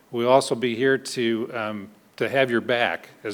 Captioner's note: none